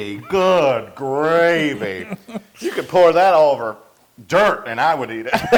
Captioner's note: laugh; laugh